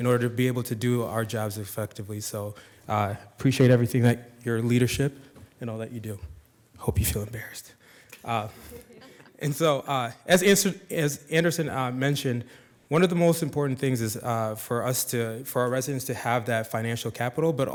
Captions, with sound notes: in order to be able to do our jobs effectively. So appreciate everything that your leadership and all that you do. Hope you feel embarrassed. (attendees laughing) And so as Anderson mentioned, one of the most important things is for our residents to have that financial capital,